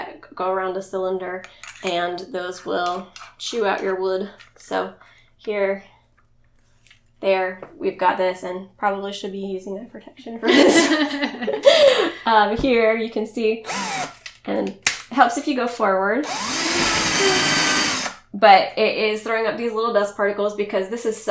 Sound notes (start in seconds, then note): 10.4 laughs